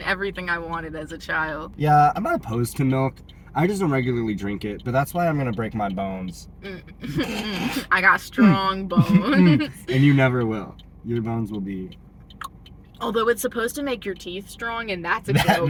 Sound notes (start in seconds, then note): 12.2 click